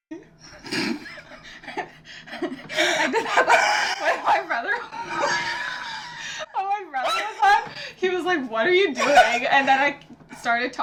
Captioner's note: wheezing